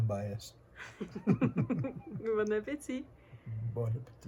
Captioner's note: laughters